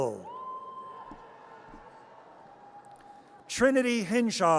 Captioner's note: audience cheers